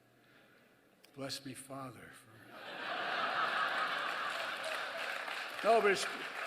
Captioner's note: laughter and applause